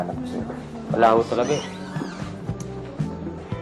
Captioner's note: clicks tongue